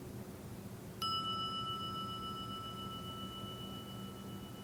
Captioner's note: bell dinging